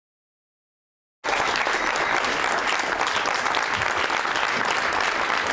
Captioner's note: all applauding